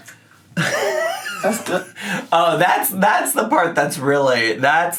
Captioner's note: laughs